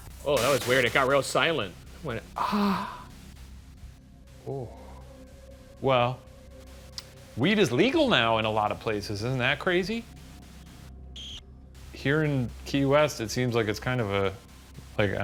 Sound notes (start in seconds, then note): 3.0 room ambience; 6.0 eerie music; 10.3 room ambience